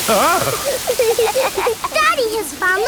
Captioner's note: laughing